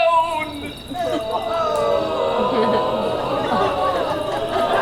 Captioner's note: audience moans